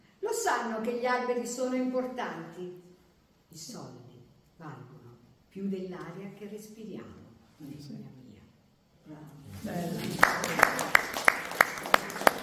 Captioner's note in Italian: Applauso